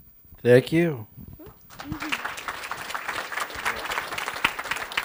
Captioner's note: applause